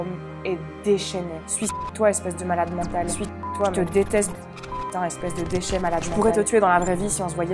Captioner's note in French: bip